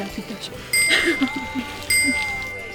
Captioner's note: laughing